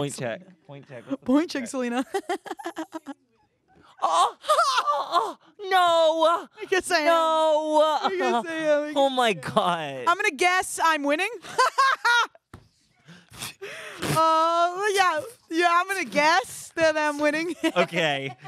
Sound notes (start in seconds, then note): 3.7 gasps